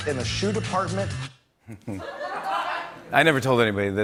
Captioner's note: laughter